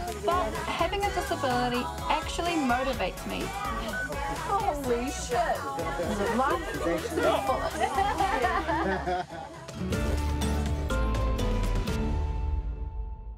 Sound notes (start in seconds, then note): 7.9 laughter